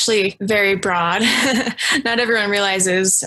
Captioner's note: laughs